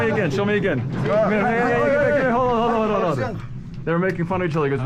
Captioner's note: shouts